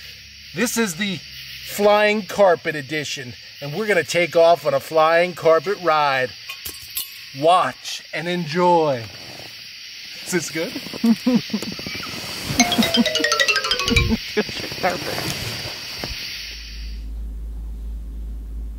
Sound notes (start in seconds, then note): 10.8 laughing